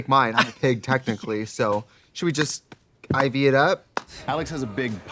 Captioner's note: Katya slapping knee